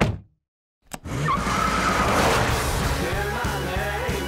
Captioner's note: tires squealing